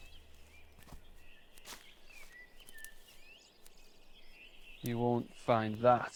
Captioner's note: birds chirping